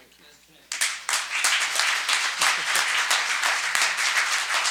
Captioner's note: audience applauds